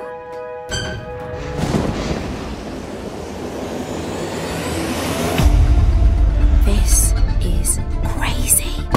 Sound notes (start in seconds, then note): 0.6 door creaking; 1.4 shimmering breeze